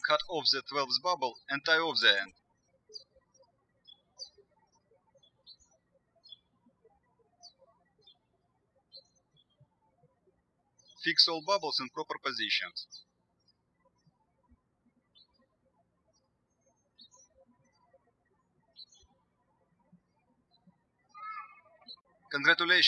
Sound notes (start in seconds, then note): 3.9 birds chirping; 14.5 birds chirping